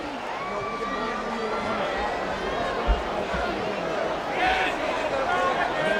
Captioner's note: medical staff chattering